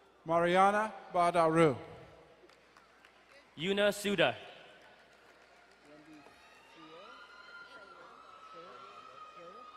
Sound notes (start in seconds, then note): 2.1 crowd cheering and applauding; 6.6 distant cheering